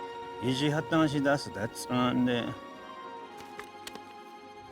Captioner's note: speaking Navajo